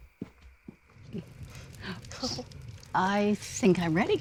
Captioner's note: fire crackling